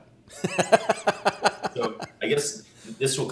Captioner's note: laughs